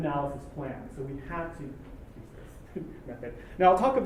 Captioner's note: laugh